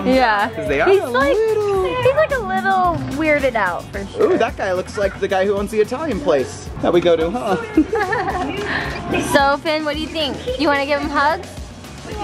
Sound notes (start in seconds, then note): 7.5 laughs